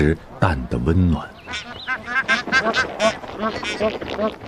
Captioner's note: geese honking